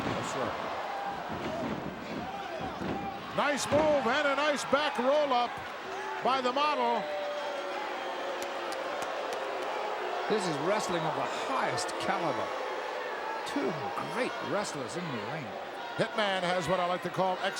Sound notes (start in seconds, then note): 7.5 crowd booing